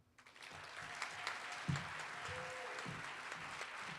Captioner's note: audience applauding